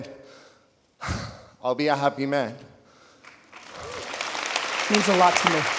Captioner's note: sighing; audience applauding